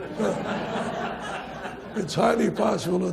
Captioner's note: audience laughs